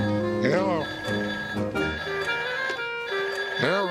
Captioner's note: telephones ringing